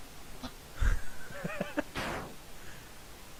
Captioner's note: laughing